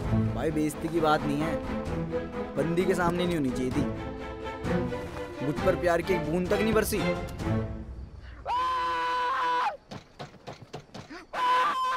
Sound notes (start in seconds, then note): 8.3 screaming; 9.8 banging